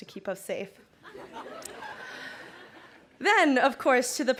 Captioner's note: crowd laughing